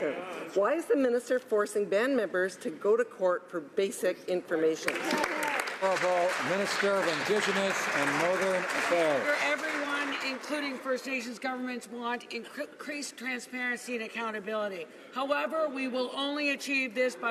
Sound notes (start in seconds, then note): 8.0 some Applause